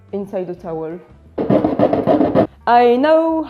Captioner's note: aggressively cutting